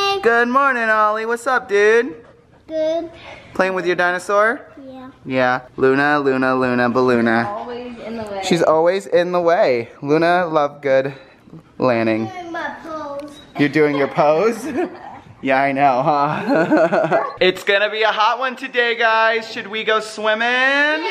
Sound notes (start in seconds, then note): 16.0 laughing